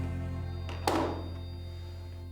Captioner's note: gun clatters on table